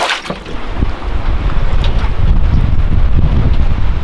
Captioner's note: wind rumbling